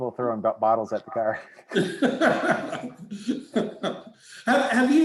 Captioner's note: laughing